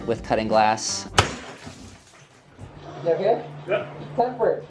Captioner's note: glass shattering